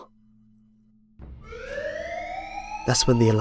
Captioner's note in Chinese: 警聲響起